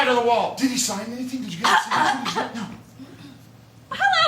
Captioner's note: cough! cough! ahem!